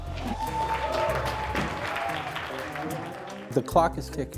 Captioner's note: people cheering